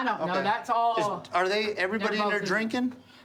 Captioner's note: none